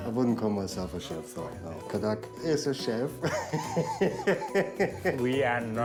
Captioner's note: laughs